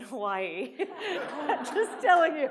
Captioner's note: audience laughs